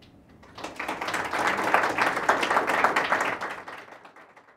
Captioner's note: audience applauding